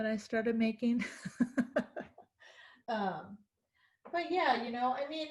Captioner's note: laughing